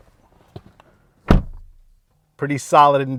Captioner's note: door closing